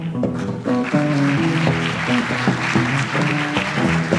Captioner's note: audience applauds